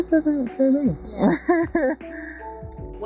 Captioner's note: laughter